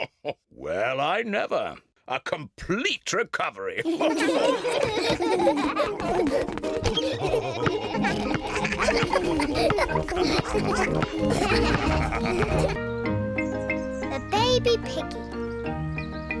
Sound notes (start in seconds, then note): 0.0 chuckles; 4.4 all laughing